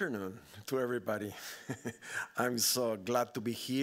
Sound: laughing

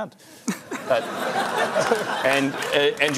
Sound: laughter

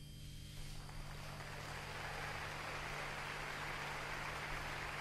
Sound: clapping track

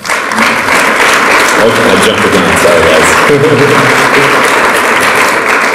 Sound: audience applauds; drowned out by clapping

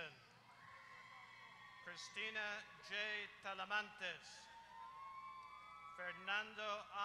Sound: applause

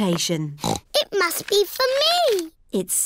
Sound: snorts

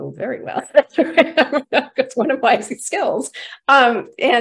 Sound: chuckles

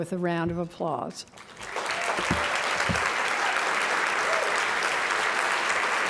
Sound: applause

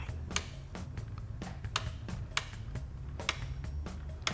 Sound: dial clicking

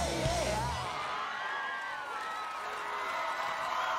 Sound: crowd cheering and applauding

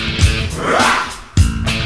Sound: upbeat rock music; band whooping

